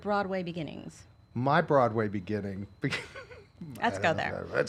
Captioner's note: laughing